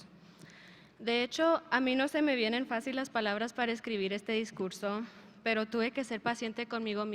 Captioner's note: speaker speaking in a foreign language